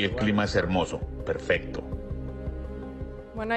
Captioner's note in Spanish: HABLAN EN INGLéS